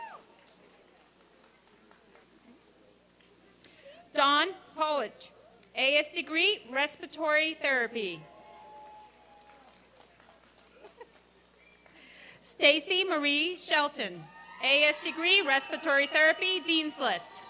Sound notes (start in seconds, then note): 0.0 applause and cheering; 8.4 applause and cheering; 17.3 applause and cheering